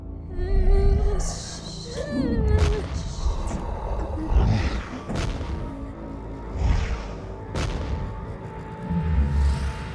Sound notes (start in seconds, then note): 0.1 whimpering; 2.6 growl; 3.9 heavy footsteps